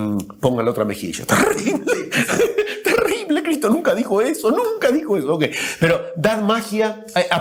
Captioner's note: laughter